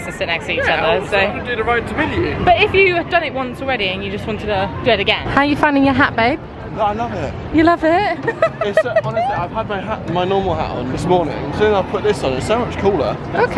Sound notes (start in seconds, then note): 8.2 giggling